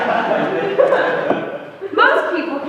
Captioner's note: laughter